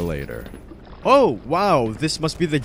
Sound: barnacle gurgles

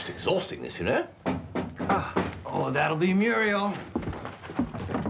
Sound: knocking at door

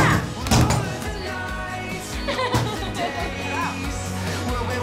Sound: laughs

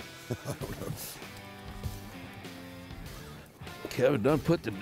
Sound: laughing

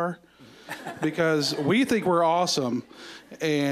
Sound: audience laughing

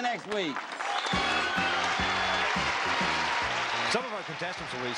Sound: applauding

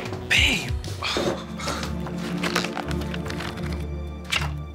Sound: Marcus sighs

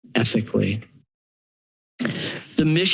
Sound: pause

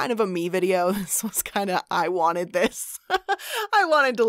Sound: chuckling

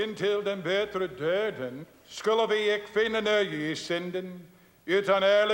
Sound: speaking in foreign language

